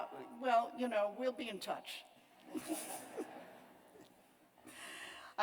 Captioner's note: laughter